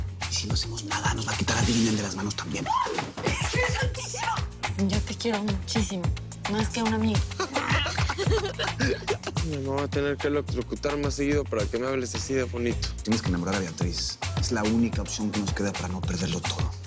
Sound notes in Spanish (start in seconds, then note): 7.3 Risas